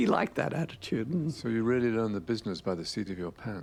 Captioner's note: voiceover